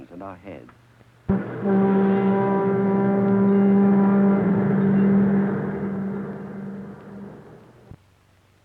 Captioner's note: horn blaring